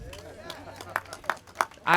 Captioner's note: applause